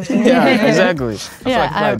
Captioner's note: group laughing